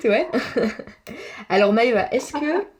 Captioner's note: laughs